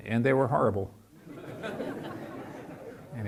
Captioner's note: laughing